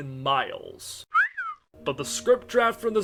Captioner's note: WALL-E whistles